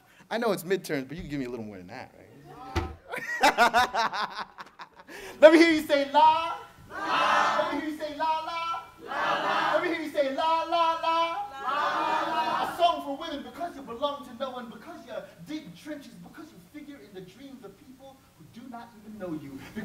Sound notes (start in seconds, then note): 3.0 laughter; 6.9 crowd repeats